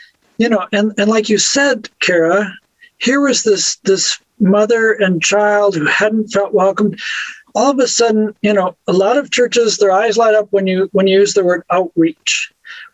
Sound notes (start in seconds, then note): none